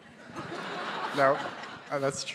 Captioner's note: audience laughing